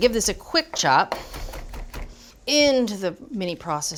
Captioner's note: knife chopping